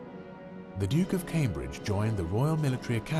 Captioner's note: voiceover